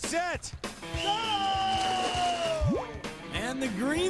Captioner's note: whistle blows